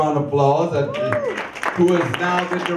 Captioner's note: audience cheers